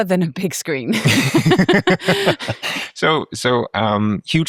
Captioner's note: both laughing